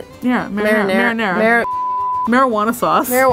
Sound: beep

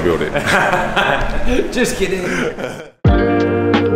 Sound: laughs

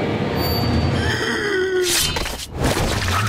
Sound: groaning

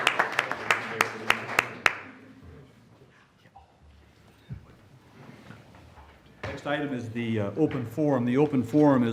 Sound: applause

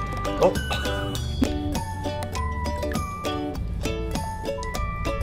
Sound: chuckles; lighthearted music

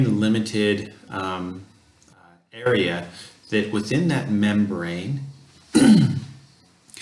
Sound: cough

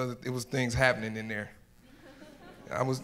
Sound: audience laughs

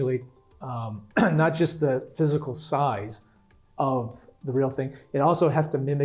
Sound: cough

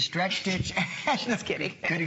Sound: laughter

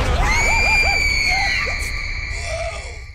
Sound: screaming

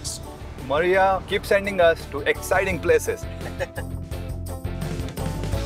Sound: laughs

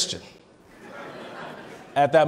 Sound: laughing

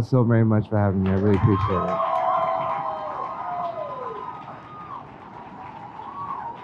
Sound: crowd cheers

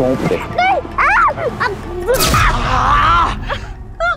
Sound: screams

